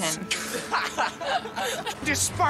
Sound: group laughs

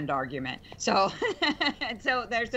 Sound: laughter

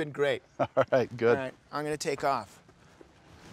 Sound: laughs

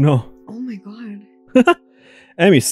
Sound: cackles

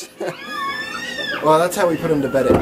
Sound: kids squealing

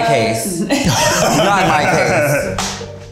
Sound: all laughing

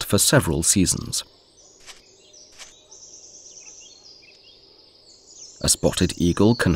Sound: sounds of nature

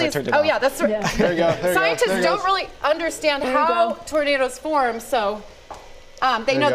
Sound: laughter

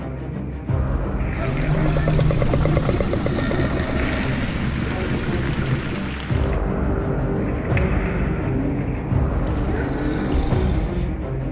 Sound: Scorpius Rex growls

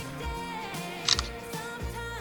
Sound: SFX: Snapping shots

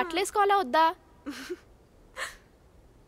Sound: laughs

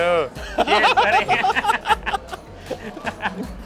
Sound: they laugh

